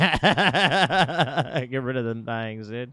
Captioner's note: laughing